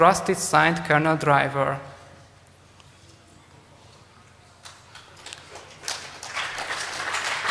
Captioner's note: applause